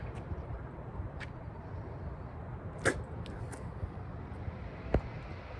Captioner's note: spits on the ground in disgust